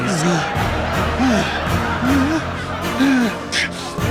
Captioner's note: crowd laughing hysterically